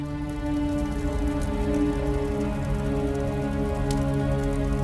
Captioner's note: fire crackling